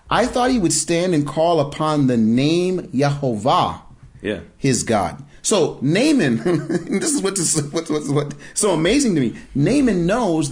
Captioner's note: laughing